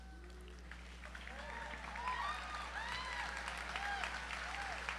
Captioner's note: audience applauds